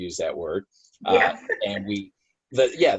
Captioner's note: laughs